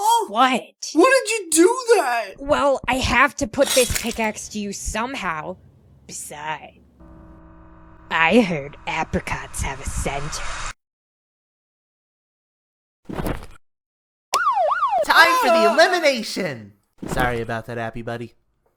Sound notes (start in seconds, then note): 14.3 siren blares; 15.3 through megaphone